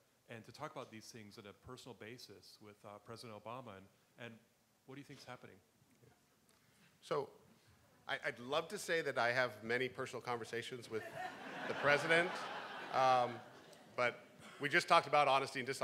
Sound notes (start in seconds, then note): 11.0 laughing; 11.0 crowd